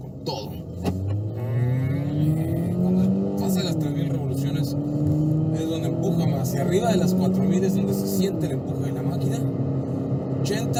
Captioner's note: engine revving